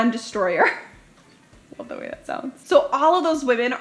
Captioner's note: chuckles